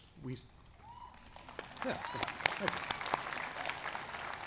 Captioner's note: audience applauding